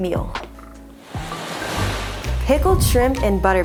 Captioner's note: waves murmuring